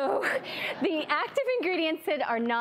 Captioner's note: laughter